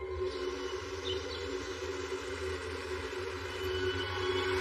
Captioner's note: birirds chirping